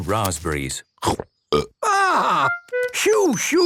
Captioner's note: burps